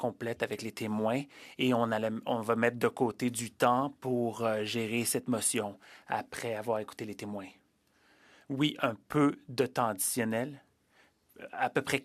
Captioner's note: speaking French